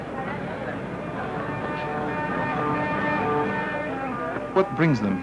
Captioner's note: city noise